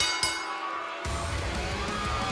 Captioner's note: bell